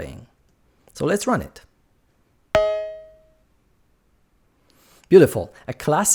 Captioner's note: ping!